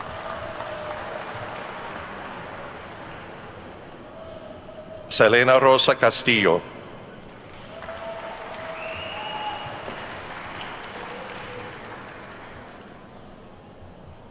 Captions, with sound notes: (attendees cheer and clap) Selena Rosa Castillo. (attendees cheer and clap)